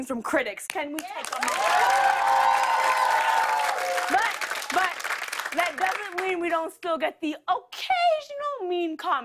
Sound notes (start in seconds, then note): 1.0 cheers and applause